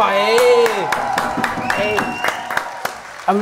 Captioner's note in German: Jubel, Applaus